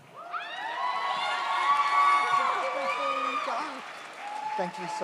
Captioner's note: audience cheers